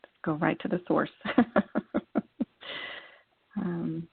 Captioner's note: laughter